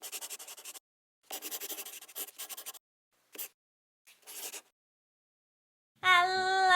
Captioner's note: the sound of a pen scratching